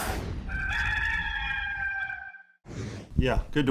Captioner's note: rooster crowing